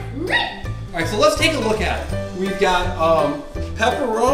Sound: voiceover

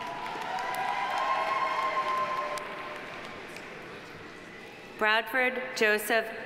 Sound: audience cheering; audience applauding

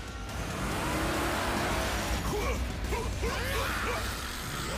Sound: grunting

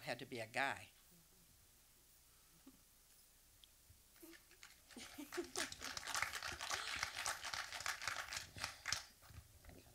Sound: light audience applause

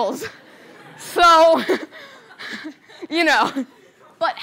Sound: laughter

